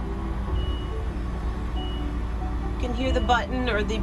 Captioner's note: beeping